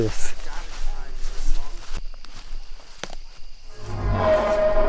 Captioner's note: people chatter